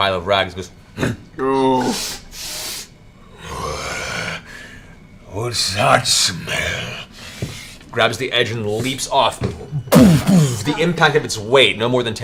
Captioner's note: grunts and sniffs